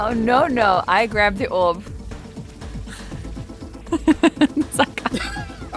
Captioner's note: giggles